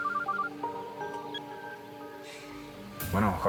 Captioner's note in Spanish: Suena el celular